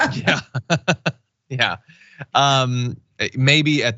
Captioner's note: laugh